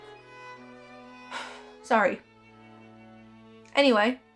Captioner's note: sighs